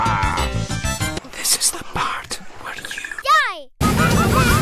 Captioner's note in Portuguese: Sussura